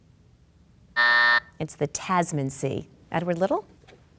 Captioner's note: bell buzzes